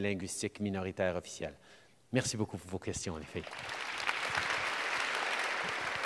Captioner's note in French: Applaudissements